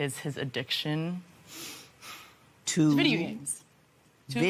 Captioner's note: sighs